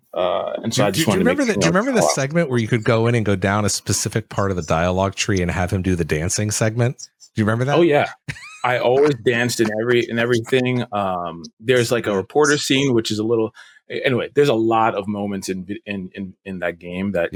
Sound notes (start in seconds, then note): 7.6 laughs